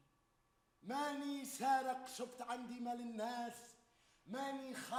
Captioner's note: man speaks Arabic